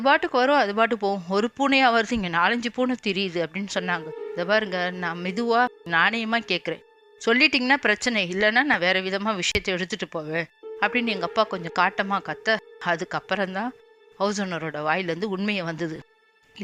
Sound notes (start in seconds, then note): 11.5 in a rude tone